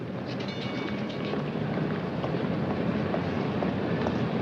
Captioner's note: bell chiming